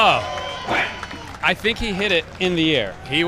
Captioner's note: crowd cheers